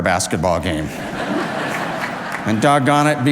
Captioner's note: audience laughs